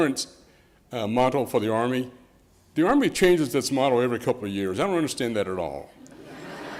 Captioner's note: laughter